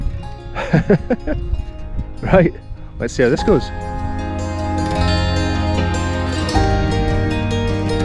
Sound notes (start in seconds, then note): 0.6 laughing